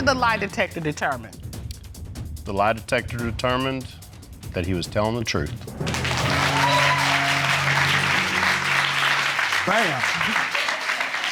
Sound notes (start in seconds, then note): 5.8 audience cheering